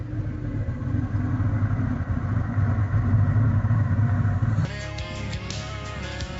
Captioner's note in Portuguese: Som de pneus rodando